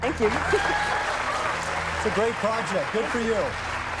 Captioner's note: cheers and applause